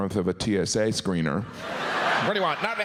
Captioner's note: audience laughs